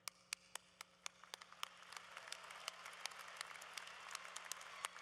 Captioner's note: applause